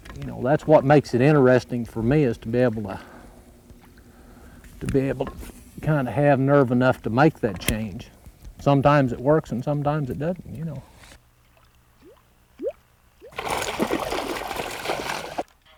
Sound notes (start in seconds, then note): 12.0 bloop, bloop